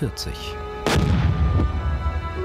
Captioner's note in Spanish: Explosión